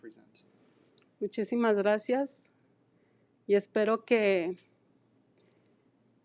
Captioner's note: speaking in foreign language